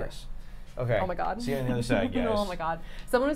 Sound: Safiya nervously chuckling

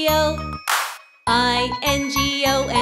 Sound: hands clap

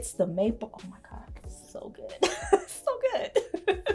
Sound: laughs; chuckles

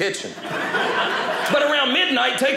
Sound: audience laughing

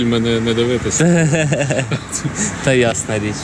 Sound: laughs offscreen

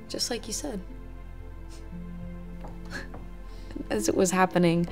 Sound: Summer chuckles

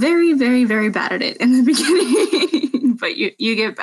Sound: laughing

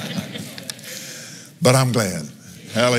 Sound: laughs

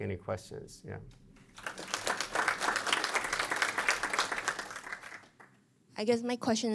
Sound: applause

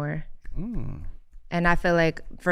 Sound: Iman snapping

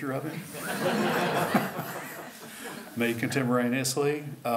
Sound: laughter

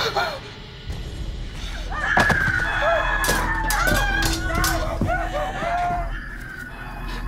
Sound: screaming; screaming continues

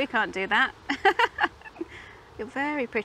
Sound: laughs

